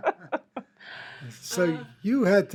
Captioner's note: laughs